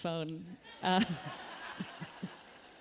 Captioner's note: laughter